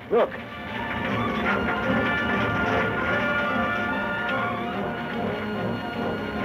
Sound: dramatic music; fire crackling

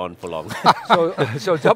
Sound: all laughing

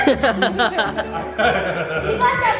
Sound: laughing

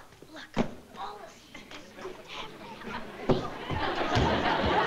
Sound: mumbling disgustedly

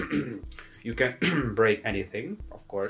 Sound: cough cough; cough

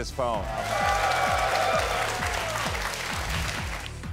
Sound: audience applauds

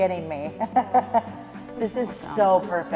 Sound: laughs

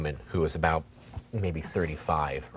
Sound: none

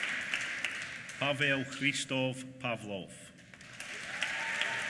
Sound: applause

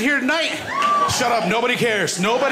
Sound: cheers

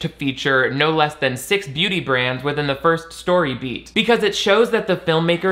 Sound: none

